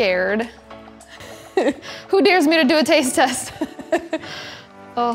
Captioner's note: laughing